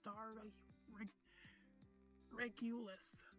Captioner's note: inhales